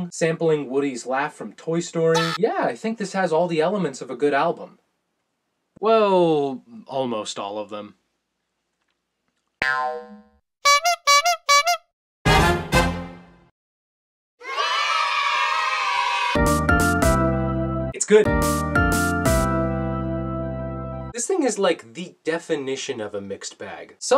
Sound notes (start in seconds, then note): 9.6 boing sound effect; 10.6 clown horn hoots; 12.2 orchestra plays; 14.4 children cheers; 16.4 upbeat music plays